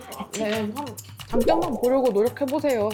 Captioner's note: in a voice like it's not her problem